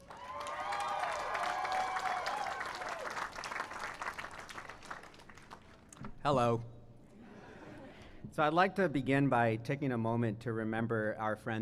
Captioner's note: cheering and applause